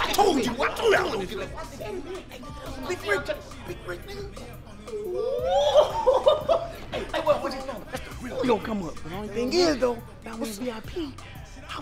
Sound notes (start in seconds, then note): 4.8 laughing; 5.0 exclaiming excitedly